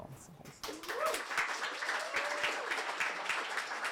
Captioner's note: applause